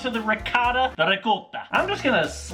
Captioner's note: Italian accent